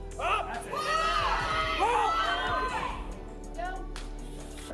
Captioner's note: crowd cheers